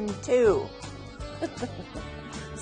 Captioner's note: laughs